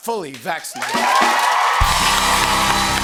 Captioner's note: cheering and applause